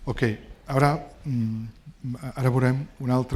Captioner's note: speaking spanish